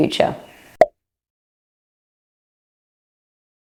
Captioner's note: pop